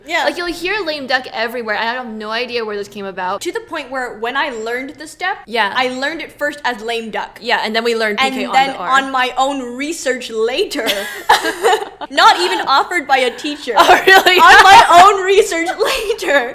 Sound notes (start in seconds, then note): 10.8 laughs